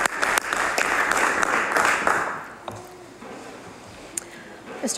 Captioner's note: applause